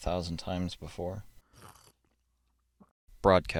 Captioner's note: sip